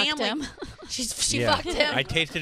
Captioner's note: laughs